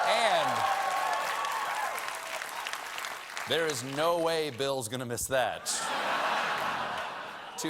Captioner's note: cheers and applause